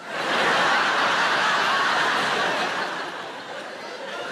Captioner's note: audience laughing